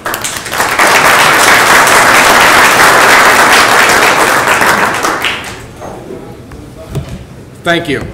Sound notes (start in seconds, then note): 1.6 applause